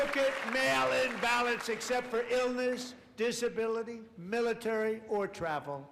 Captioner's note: applause